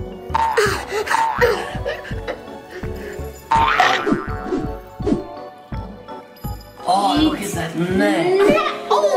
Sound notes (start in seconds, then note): 0.0 munching; 3.5 munching